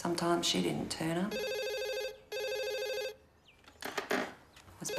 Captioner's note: phone ringing